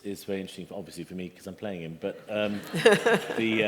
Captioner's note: laughter